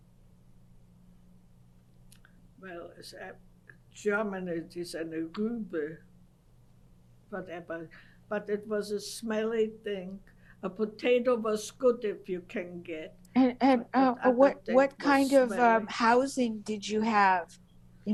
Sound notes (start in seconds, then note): 5.9 german